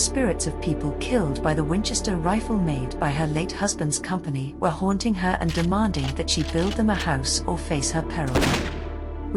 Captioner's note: gunshot